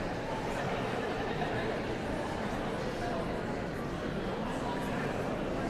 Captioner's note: audience chattering continues